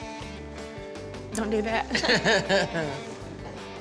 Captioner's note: laughs